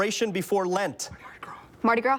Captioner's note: whispers